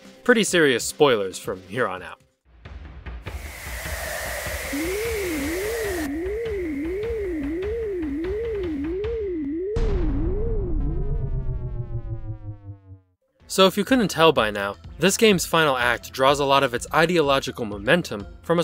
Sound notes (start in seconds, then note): 3.3 magic Ritual sounds